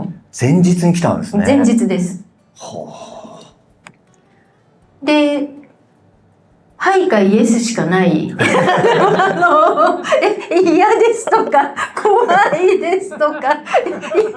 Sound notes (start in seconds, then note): 8.4 laughs